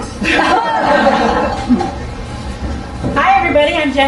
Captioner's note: group laughing